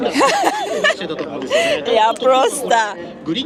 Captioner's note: laughter